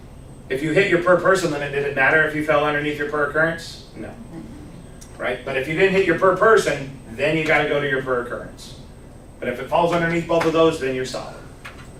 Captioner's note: clears throat